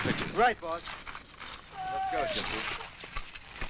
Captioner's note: man shouting